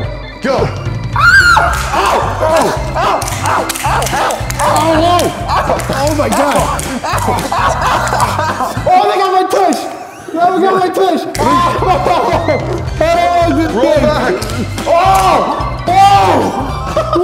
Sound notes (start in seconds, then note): 1.2 high pitch screams; 12.1 making sounds of suffering; 15.0 more ows